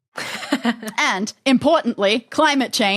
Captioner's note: chuckles